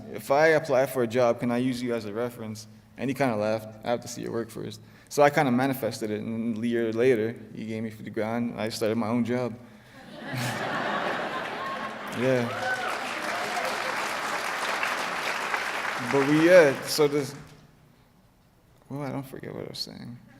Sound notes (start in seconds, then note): 12.5 laughter; 14.6 applause